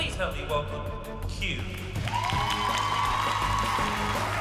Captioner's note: cheering